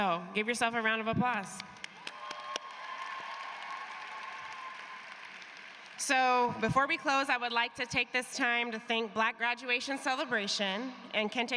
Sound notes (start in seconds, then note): 6.0 cheers and applause